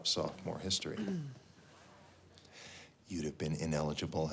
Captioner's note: Spencer clears throat